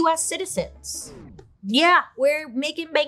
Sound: record scratches

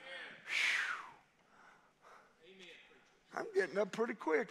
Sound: preacher sighs

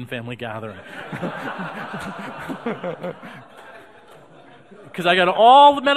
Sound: audience laughing

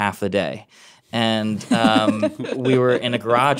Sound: laughing

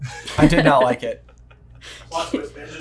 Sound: chuckling

